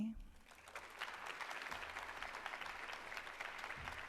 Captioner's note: applause